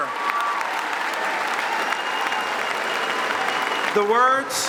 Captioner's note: applause; cheering